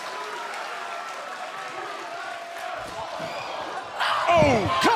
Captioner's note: cheers & applause